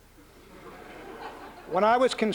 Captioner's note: laughter